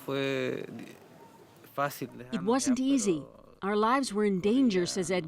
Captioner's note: speaking spanish